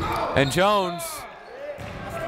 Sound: whistle

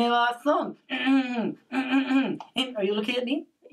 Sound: clears throat

